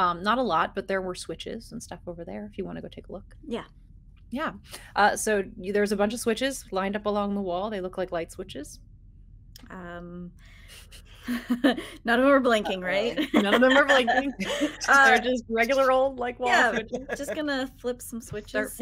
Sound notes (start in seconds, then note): 11.2 person laughing